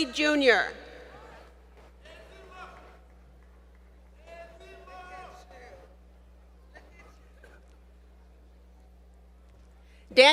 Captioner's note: faint Cheers From Crowd